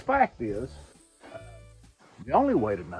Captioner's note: griddle sizzling